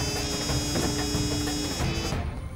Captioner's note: Door closes